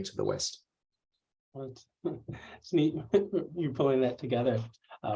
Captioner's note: laughter